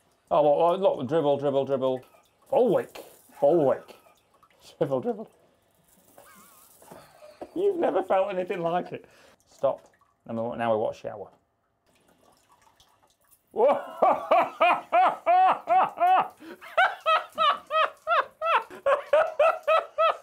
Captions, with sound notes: Oh, a lot of dribble, dribble, dribble. full wick, full wick. Dribble, dribble. (laughter) You've never felt anything like it. Stop, and now we want a shower. Whoa! (laughs)